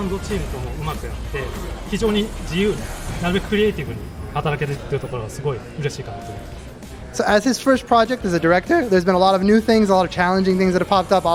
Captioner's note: speaking foreign language